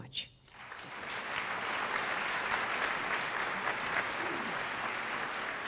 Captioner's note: applause